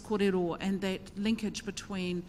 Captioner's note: speaks in foreign language